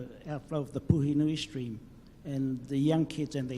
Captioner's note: speaks in foreign language